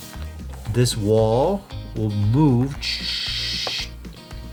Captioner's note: imitating sliding sound